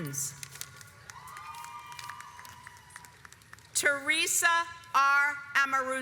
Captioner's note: audience applauds